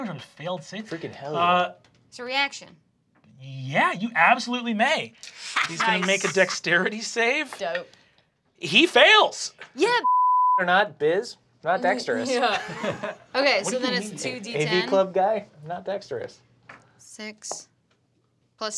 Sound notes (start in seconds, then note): 10.0 beep